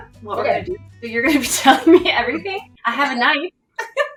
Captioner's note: laughs; laughs